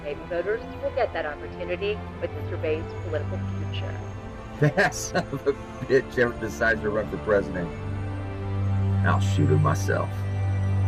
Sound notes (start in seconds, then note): 4.6 chuckles